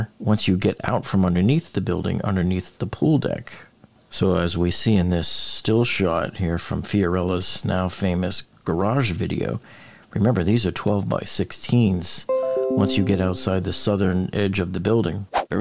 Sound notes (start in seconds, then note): 12.3 device chiming